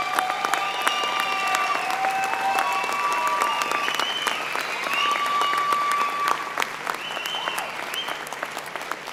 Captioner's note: applause